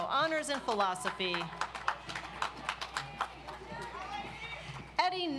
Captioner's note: audience applauds